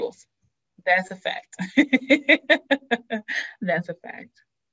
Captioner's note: laughs